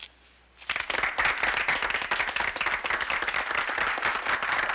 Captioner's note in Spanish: aplausos